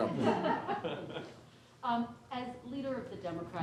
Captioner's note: laughter